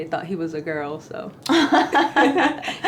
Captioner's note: laughter